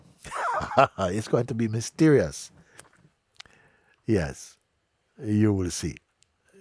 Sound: Mooji laughs

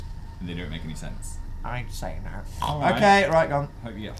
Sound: pig snort

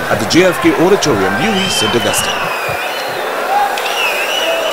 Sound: wild applause and cheering for 22 seconds

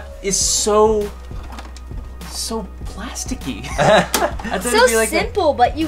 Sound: laughs

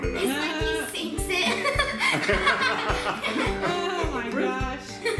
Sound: laughing

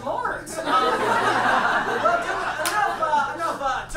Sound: audience laughs

